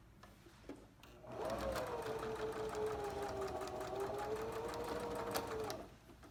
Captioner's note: sewing machine hums